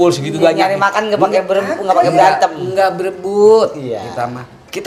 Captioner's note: laughs